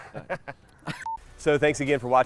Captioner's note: laughs